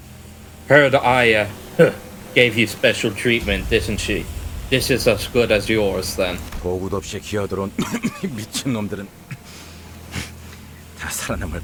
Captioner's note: cough